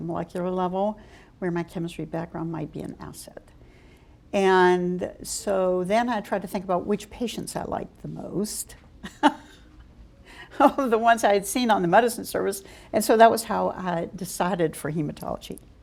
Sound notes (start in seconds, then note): 9.0 chuckle